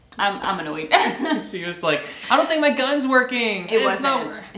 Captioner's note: laughing